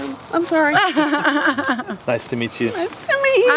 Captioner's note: laughs